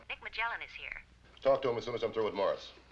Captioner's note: voiceover